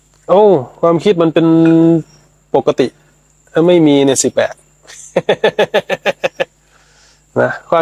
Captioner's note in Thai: เสียงหัวเราะ